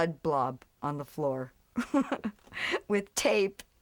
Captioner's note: laughs